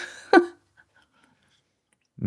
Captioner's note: laughing